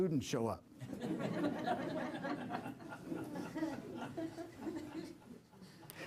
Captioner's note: laughter